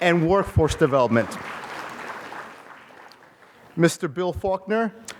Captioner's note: applause